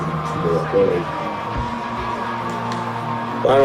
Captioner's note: crowd Noises